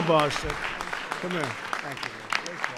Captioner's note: applause